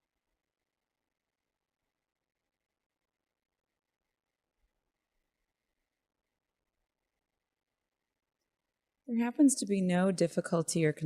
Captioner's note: silence